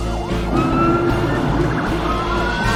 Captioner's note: sirens blaring